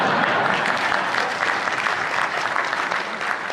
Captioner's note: laughter; applause